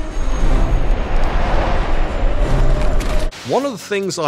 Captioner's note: missile whistling; air whooshing